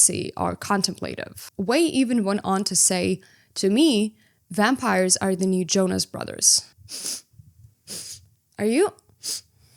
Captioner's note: sniffs